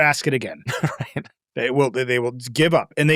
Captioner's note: laughing